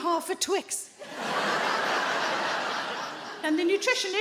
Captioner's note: audience laughs